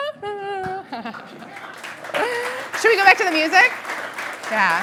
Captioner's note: applause